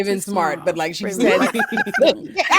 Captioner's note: laughing